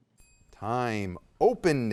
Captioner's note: soft chiming